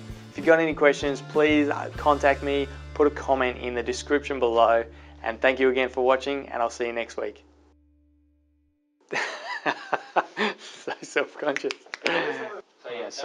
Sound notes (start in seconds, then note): 9.2 laughing